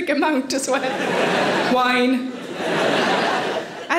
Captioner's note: audience laughing